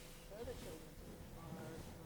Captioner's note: news report plays on TV